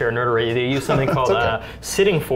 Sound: laughs

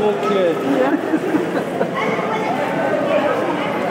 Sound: laughs with him; crowds chatter

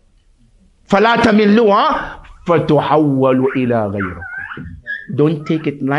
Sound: Arabic

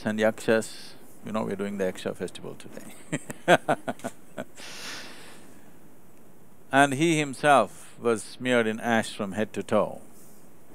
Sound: laughs

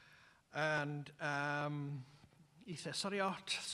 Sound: non-english speech

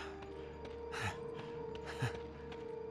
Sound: laughs

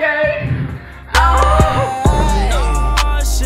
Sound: feminine orgasm noise

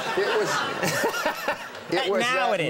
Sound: Conan laughs

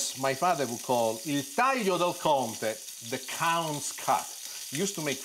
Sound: speaking in foreign language

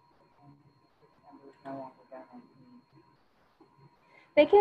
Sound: student speaking faintly

